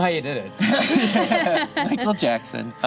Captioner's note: group laughs